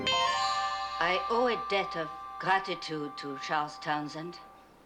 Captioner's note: french accent